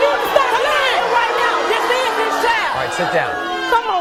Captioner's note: audience booing; audience yelling